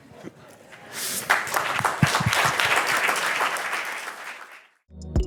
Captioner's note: applause